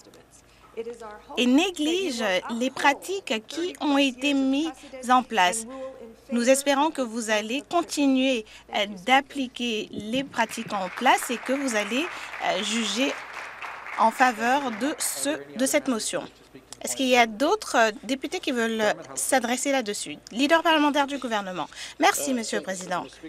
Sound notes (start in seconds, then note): 15.2 some Applause